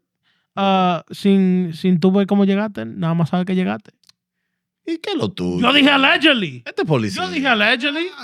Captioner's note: speaking Spanish